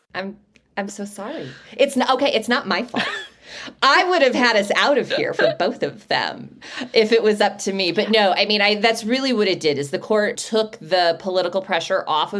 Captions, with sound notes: I'm, I'm so sorry. It's- okay. It's not my fault. I would've had us out of here for both of them if it was up to me. But no, [Laughs]. I mean, I, that's really what it did is the court took the political pressure off of it